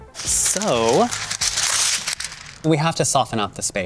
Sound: paper ripping

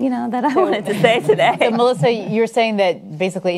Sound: panelists chuckle

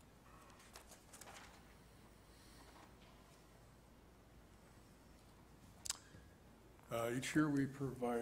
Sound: paper rustling

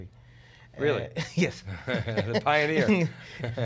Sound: laughter

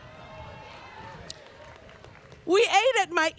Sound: students cheering

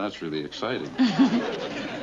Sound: chuckles

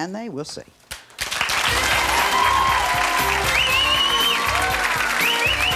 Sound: audience clapping and cheering

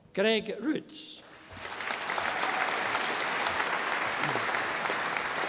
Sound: audience applauding

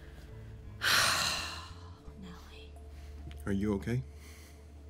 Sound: sighs

